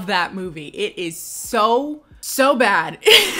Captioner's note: laughs